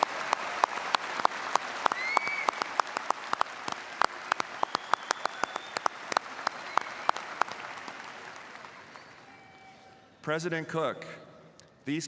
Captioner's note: applause